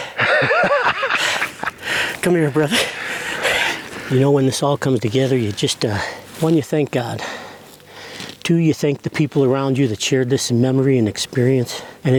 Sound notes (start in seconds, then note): 0.0 laughing; 2.6 breathing deeply